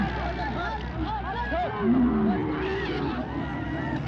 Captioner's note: men yelling and camels groaning